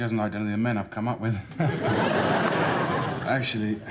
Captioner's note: laughs